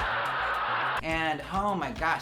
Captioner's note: cheers